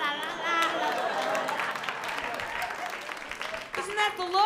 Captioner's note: applause